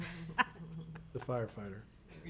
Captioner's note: laughs